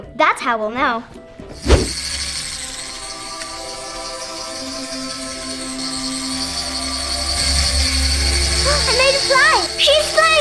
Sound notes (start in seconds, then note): 1.6 pixie whirs; 1.6 angelic choral music